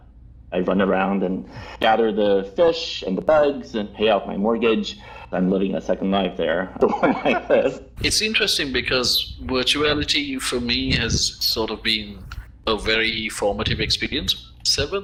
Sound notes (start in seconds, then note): 6.8 all laugh